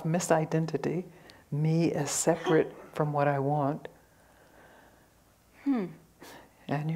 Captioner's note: hmm!